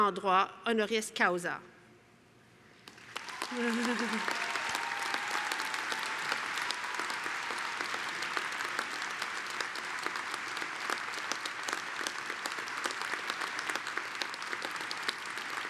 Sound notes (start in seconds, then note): 2.8 applause